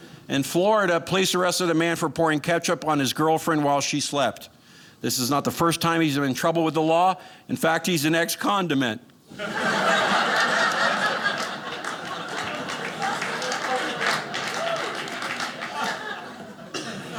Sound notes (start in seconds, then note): 9.3 audience laughing